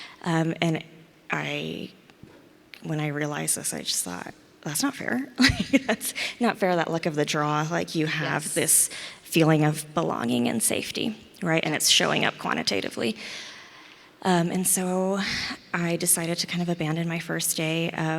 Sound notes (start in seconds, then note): 5.5 laughs